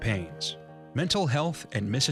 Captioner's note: voiceover